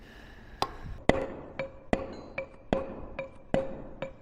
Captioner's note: metal hammering